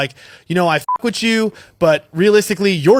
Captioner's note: beep